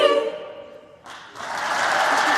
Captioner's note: applause